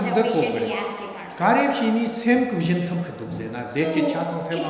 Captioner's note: speaking tibetan